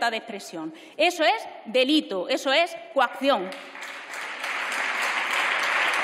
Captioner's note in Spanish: Aplausos